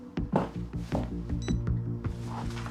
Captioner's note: telephone beeps